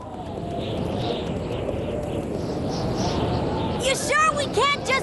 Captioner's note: whistling wind